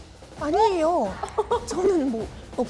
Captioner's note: in the tone of a shriveled plant